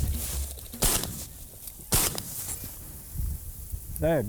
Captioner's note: gunshot pops